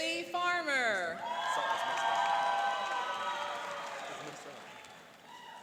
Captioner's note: cheering and applauding